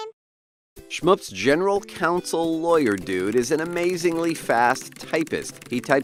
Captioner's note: person typing